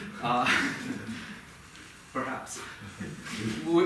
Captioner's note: laughing